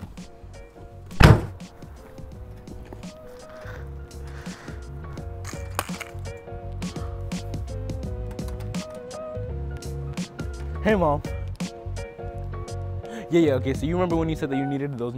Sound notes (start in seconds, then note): 1.0 door slamming; 2.6 upbeat music